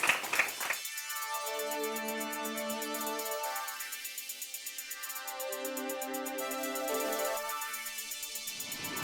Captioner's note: applause